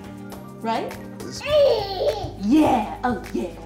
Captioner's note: baby gurgles